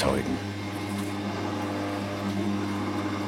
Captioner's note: quiet machine whirring